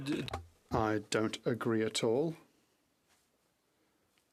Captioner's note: speaking French